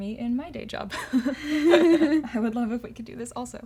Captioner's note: laughter